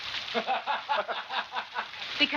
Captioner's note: laughing